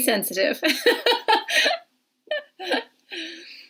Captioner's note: laughing